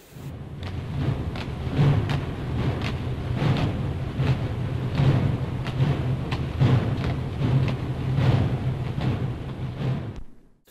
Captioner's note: sound of gunfire